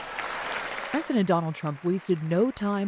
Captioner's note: applause